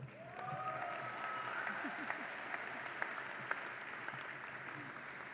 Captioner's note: audience applauds and cheers